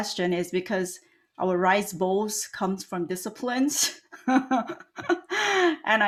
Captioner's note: laughs